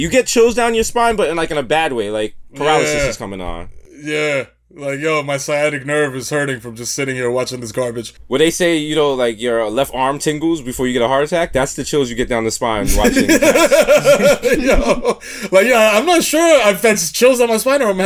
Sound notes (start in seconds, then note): 12.8 laughs